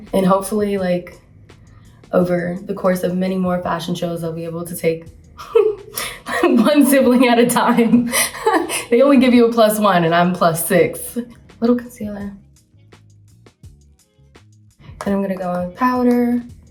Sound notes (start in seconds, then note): 7.7 chuckles